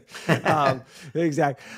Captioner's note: laughs